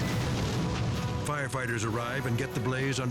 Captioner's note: fire roaring